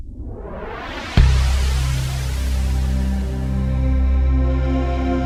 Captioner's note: whooshing logo; chiming music